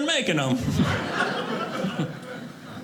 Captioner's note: audience laughing